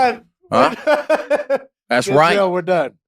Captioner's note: laugh